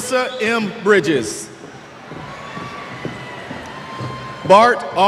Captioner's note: cheers